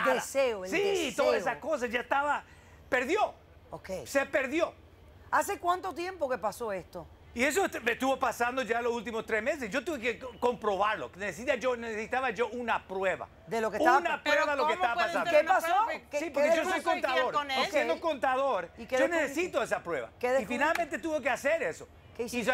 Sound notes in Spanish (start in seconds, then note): 16.2 Hablan al unísono